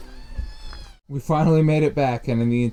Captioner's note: animal crying